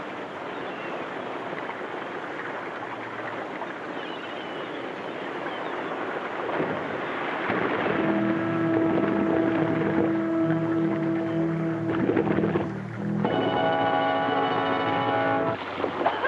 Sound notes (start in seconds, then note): 6.9 water splashes; 8.0 tense music; 13.5 dramatic music